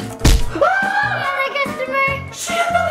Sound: drum thumping; screaming

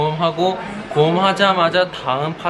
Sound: sigh

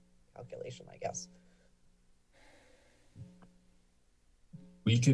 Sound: silence

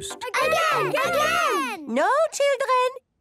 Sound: children calling out

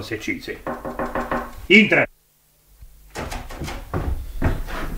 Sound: knocking at the door

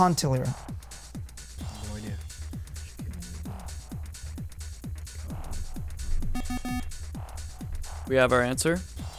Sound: wispering

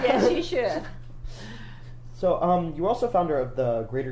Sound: laughs loudly

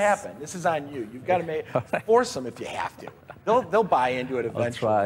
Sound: laughing

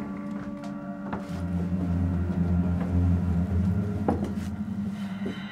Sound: spooky sounds

